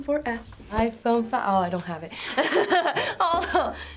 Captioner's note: laughs